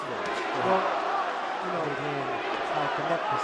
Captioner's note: cheers